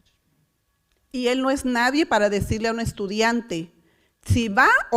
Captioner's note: foreign language